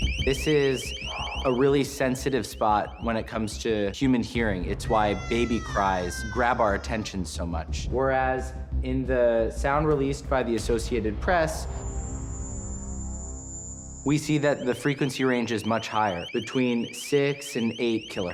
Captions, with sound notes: This is a really sensitive spot when it comes to human hearing. It's why baby cries grab our attention so much, whereas in the sound released by the Associated Press-- [high-pitched chirping] --we see that the frequency range is much higher, between 6 and 8 kilohertz.